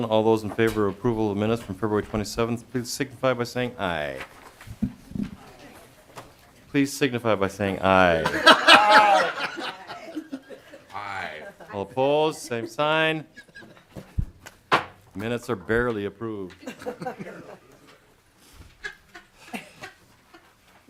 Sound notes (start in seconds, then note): 8.2 chorus of ayes